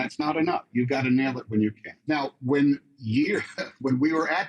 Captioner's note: chuckles